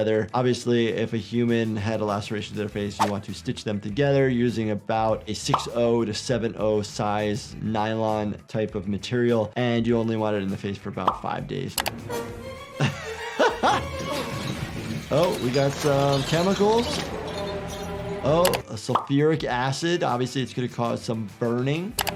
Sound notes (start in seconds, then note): 11.7 intense music; 12.7 chuckling